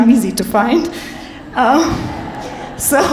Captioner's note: audience chuckles